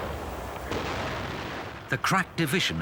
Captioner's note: guns firing